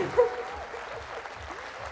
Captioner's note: applause